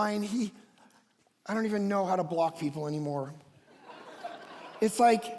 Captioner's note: congregation laughs